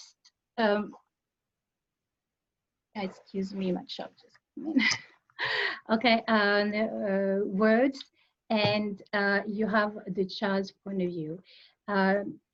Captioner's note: laughs